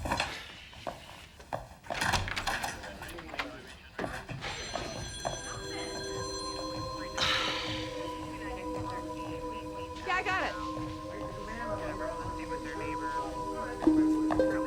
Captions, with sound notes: (phones ringing) (tense music) - Yeah, I got it.